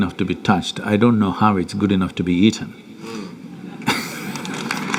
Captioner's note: applause